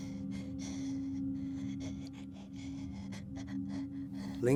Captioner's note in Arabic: صعوبة في التنفس